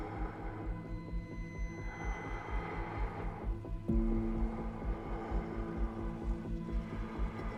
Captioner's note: ominous music; breath huffing